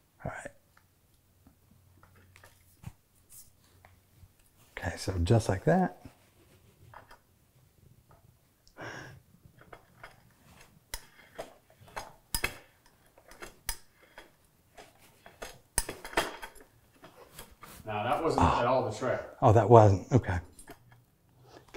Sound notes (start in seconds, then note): 9.5 soft tapping and rattling